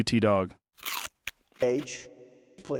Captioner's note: chewing sounds